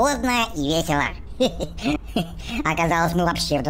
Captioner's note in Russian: смеется